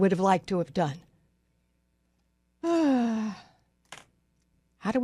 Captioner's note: sighs